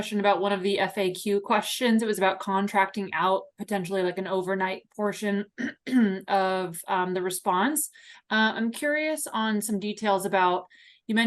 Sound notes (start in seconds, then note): 5.6 clears throat